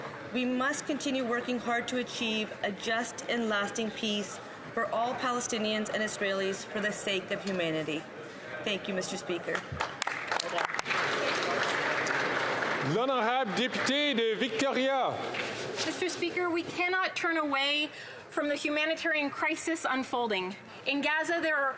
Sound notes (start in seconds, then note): 15.4 applause